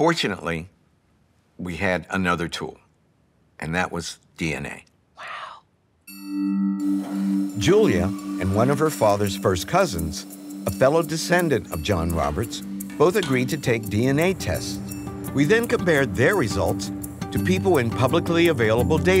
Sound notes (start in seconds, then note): 5.5 whispering